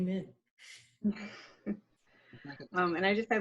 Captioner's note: laughing